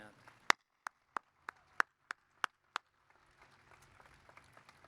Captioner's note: applause